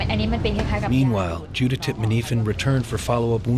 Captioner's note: voiceover